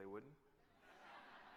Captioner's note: laughter